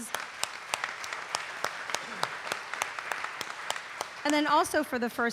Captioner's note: audience applauding